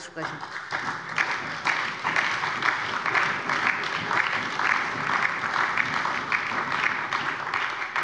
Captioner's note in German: Beifall bei der SPD und der LINKEN sowie bei Abgeordneten der CDU